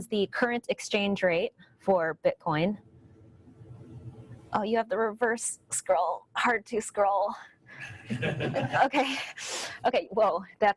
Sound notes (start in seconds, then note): 8.0 audience laughing